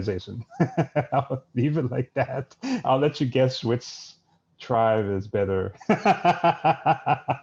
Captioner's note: laughs; laughs